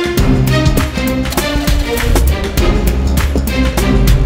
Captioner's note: Engine starts